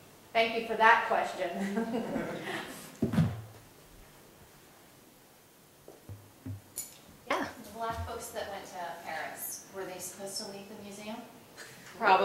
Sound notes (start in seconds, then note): 1.6 laugh